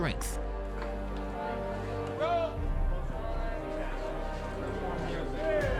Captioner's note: dramatic music; chattering